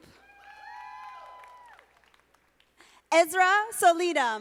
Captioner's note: audience applauding